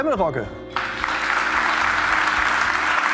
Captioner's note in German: Applaus